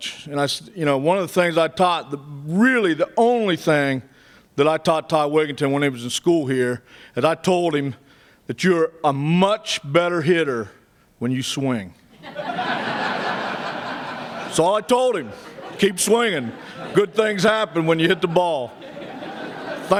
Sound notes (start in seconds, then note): 12.1 laughter; 18.7 laughter